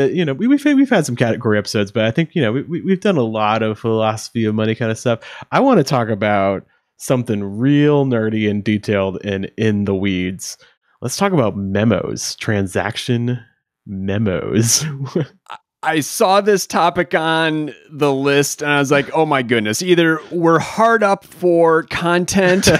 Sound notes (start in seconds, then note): 14.6 chuckles